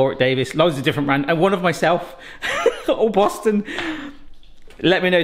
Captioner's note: laughs